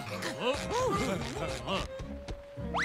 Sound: giggling

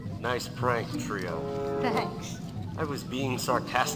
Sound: laughs

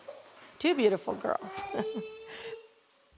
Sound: laughs

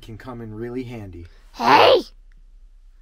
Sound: uses a raspy voice

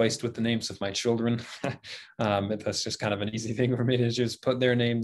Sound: laughing

